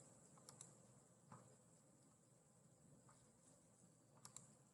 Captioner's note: mouse clickings